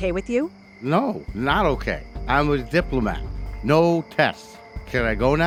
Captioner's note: slurred speech